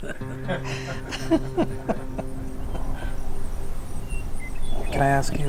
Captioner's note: laughter; thrush calling, crickets chirping